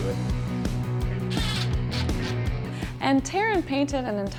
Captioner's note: drill whirring